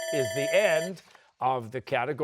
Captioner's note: bell rings